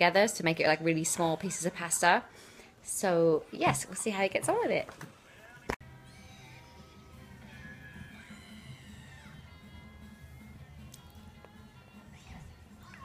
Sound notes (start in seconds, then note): none